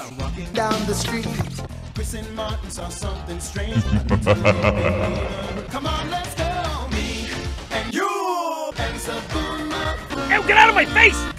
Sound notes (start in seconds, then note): 3.7 Bowser laughs